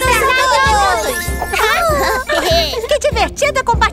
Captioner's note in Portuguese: Risos